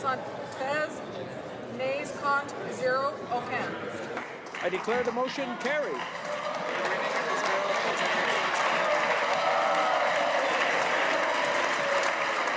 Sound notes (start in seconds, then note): 6.4 speaking in french